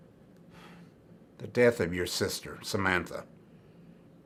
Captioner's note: sighs